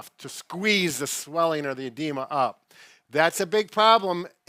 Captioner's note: none